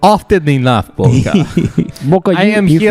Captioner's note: laughs